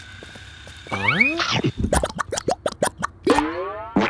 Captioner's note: munching